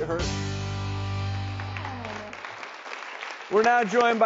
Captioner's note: audience claps